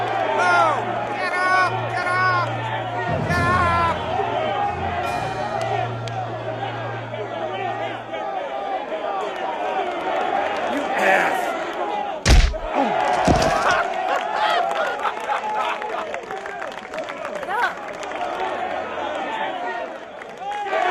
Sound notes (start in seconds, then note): 11.8 applause; 13.4 laughter